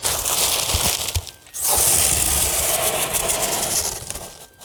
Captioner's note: paper rustling